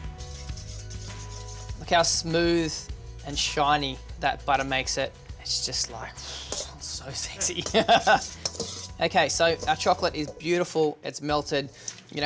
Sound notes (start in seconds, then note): 7.4 laughs